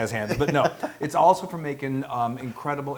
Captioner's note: laugh